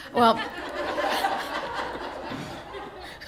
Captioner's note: laughter